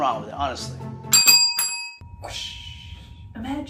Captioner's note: bells dinging